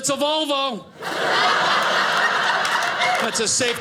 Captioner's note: audience laughing